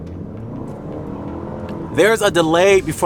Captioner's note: engine revving